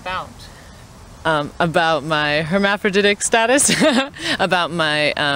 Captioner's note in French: rires